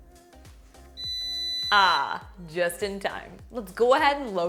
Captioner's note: fryer beeps